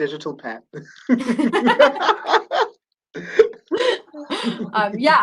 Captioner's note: laughter